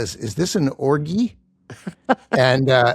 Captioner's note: laughing